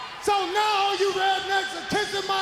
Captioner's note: crowd cheering